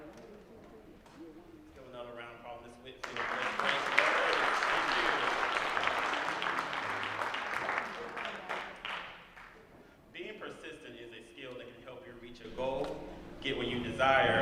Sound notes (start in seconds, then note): 8.0 applause